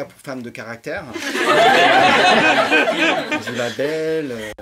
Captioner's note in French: rires